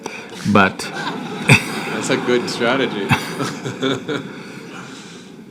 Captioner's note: laughter; laughs